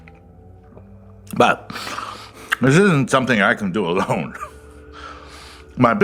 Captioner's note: with mouth full